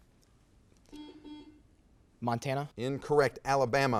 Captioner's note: buzzer beeps